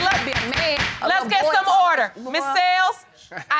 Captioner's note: gavel banging